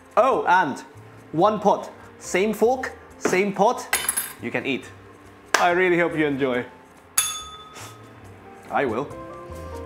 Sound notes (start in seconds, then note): 7.2 bell rings